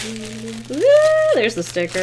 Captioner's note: squeals